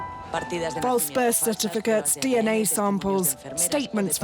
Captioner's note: female news reporter speaking over TV